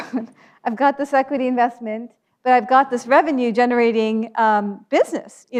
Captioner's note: laughs